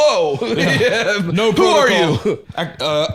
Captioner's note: laughs